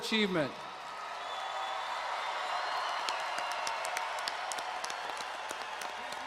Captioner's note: audience and students cheering excitedly